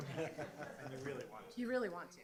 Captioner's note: audience laughs